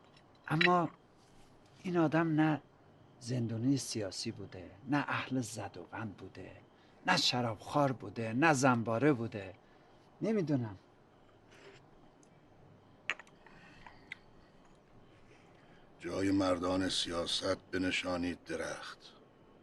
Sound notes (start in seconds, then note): none